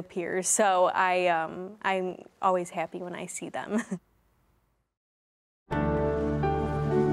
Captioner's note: chuckling; soft music